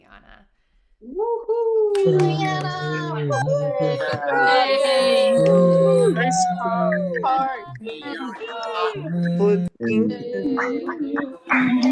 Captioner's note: cheering